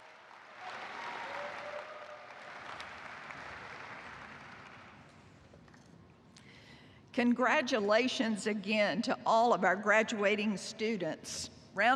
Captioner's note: cheers and applause